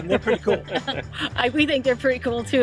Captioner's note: chuckles